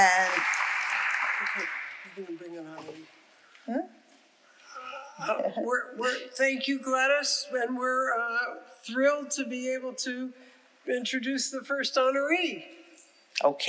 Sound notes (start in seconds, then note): 1.8 faintly speaking